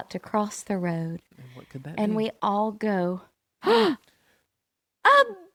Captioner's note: gasps